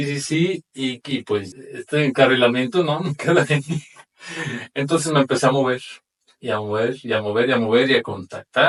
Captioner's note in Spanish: risas